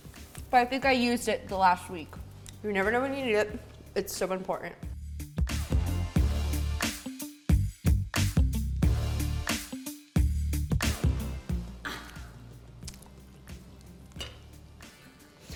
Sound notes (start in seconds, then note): 5.3 smooth music; 11.8 laughing